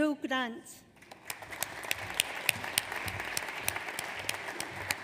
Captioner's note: audience applauds